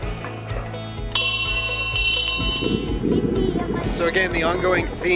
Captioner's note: bell ringing